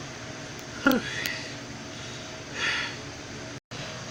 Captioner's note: breathing